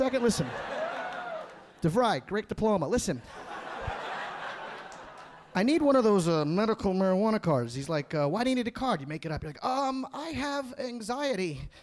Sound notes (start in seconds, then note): 3.2 audience laughing